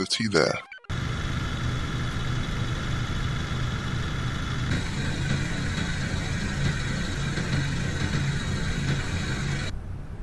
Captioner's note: motor noise